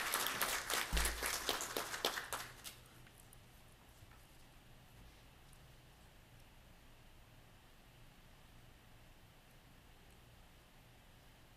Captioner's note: applause